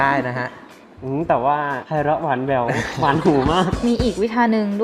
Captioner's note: haha